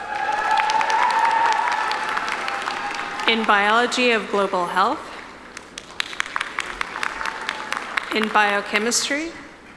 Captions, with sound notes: (audience cheering) In Biology of Global Health. (audience applauding) In Biochemistry.